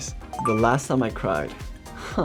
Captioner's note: beeps